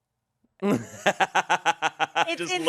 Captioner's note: laughs